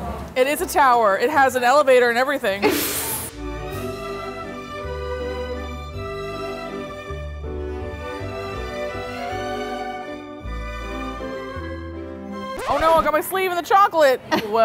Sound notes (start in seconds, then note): 2.8 laughing; 3.6 blissful music